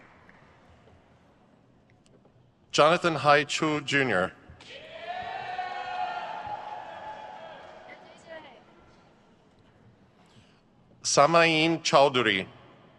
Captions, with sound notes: Jonathan Hai Chou Jr. (audience cheers) Samaeen Chowdhury.